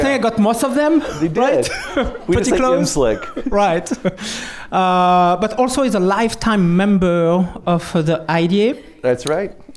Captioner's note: laughter